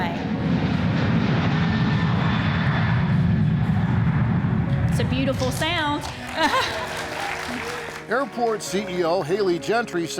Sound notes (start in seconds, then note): 0.0 plane engine roaring; 5.4 audience applauding